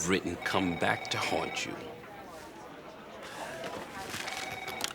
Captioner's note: phone rings